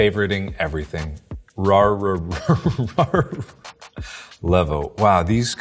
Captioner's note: laughs